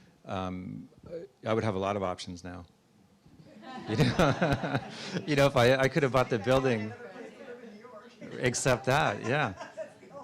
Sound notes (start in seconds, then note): 3.6 audience laughs; 6.7 audience chattering; 9.1 laughing